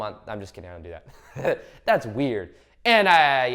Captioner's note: laughs